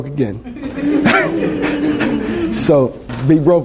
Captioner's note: laughter